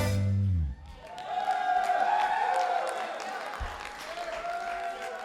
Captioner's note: applause